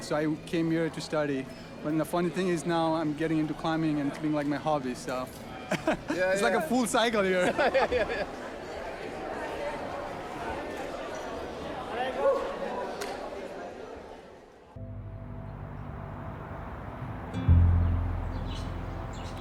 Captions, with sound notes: so I came here to study, when the funny thing is, now I'm getting into climbing and it's being like my hobby, so. (laughs) It's like a full cycle here. (laughs) (overlapping chattering) (slow music)